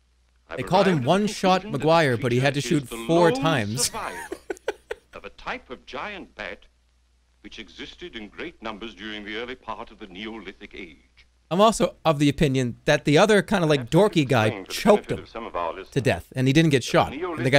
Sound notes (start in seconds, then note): 3.8 laughs